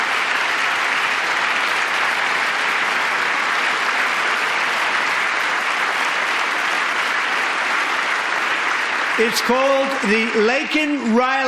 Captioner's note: applause